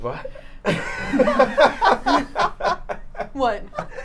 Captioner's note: laughing